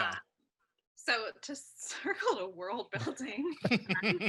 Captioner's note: laughs